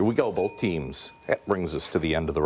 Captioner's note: bell dings